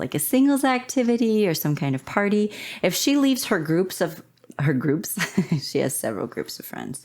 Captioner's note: laughter